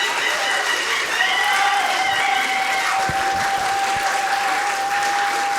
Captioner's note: audience cheering continues